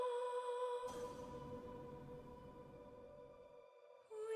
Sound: clank

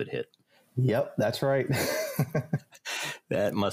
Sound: laughs

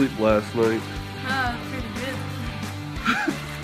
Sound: sarcastically

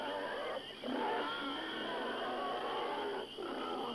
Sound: none

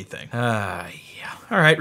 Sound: sighs

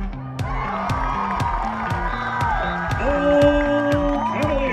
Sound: cheering

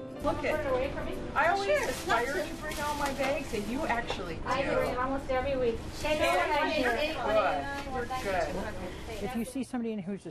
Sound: customer chatter

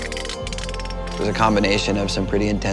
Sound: metal cranking

